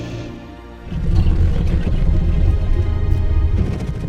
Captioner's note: both growl softly